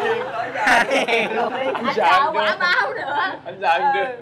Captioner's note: laughing